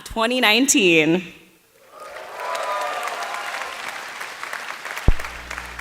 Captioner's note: applause